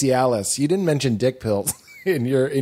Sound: laughter

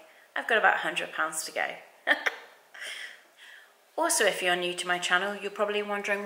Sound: giggles

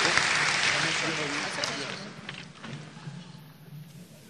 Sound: applause

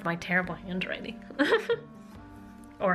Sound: laughter

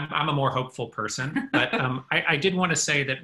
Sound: laughs

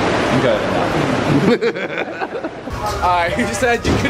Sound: laughing

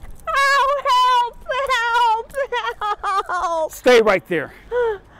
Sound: sobbing; woman sobbing

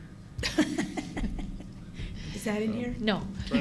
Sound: laughter

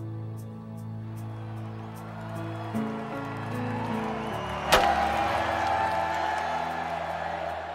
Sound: crowd Cheering

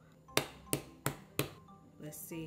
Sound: bright music continues; hand pounding

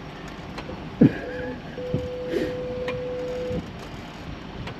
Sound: laughs

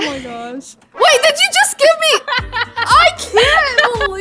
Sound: laughs

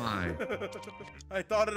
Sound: laugh

